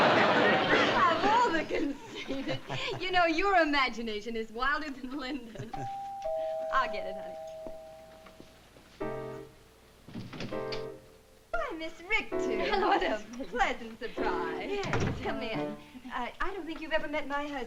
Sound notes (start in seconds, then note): 5.7 doorbell ringing; 8.9 piano music